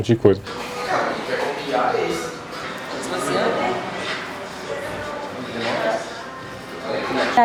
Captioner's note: indistinct chatter